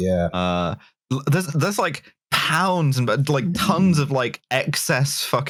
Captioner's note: pounds